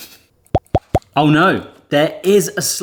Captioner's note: cupcake device pops